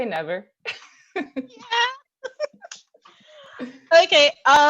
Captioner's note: laughs